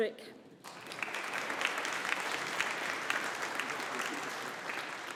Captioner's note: audience applauding